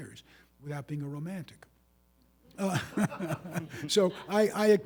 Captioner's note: audience laughing